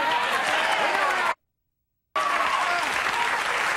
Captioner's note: audience cheering